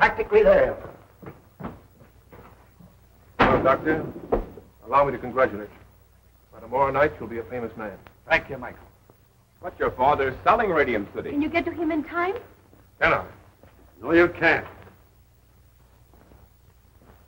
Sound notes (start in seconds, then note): none